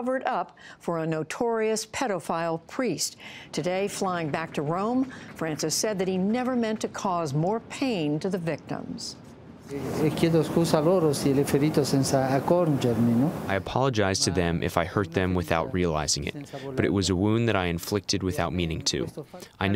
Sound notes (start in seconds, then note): 11.7 through translator